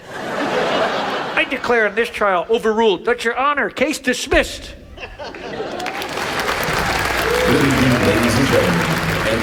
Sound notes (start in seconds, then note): 0.0 audience laughs; 5.4 audience applauds